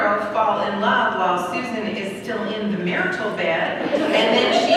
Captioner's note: laughter